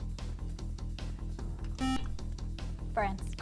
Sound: buzzer

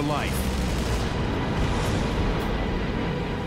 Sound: booming

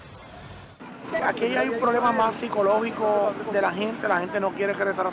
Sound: speaking foreign language

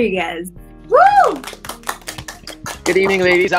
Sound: cheering

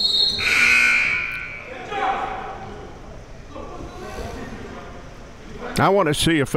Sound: whistle blows; buzzer dings; players yelling

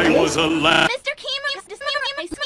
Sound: scrambling noises

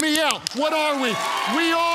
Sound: congregants cheer

